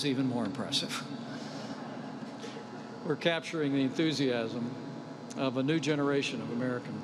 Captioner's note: laughter